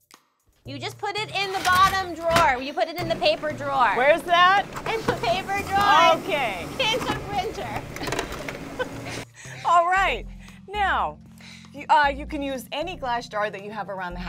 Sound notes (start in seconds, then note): 8.4 laughs